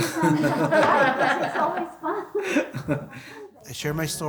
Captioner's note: group laughs